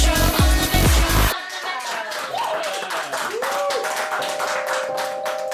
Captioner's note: applause